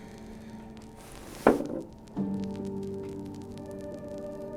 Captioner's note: bottle thuds; soft music